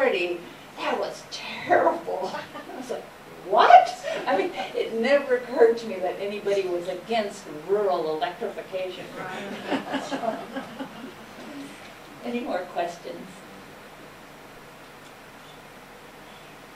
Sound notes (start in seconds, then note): 9.3 laughter